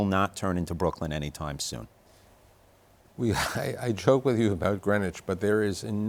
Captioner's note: chuckles